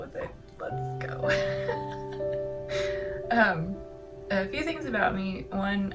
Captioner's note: laugh